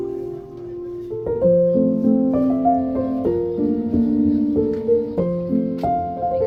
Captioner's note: walking